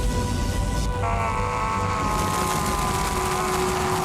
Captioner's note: screaming; zapping